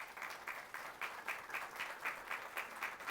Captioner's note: applause